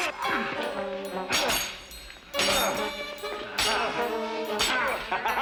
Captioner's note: groans; thuds; swords clank; groans; chuckles